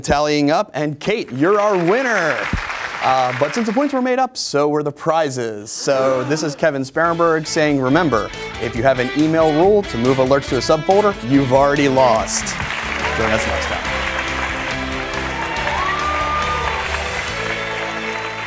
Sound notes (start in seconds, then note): 1.2 applause; 14.2 applause